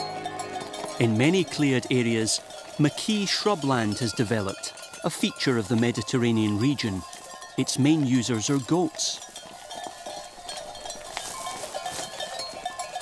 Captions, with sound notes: In many cleared areas, maquis shrubland has developed, a feature of the Mediterranean region. Its main users are goats. [goat bells ringing]